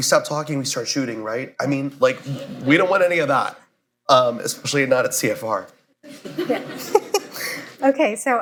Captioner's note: laughter